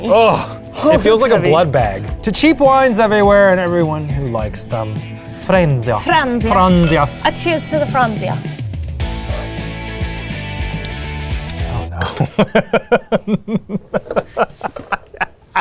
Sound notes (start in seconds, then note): 8.6 upbeat music; 11.8 laughs